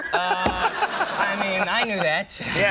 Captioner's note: audience laughing